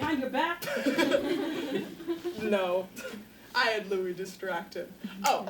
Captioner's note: laughing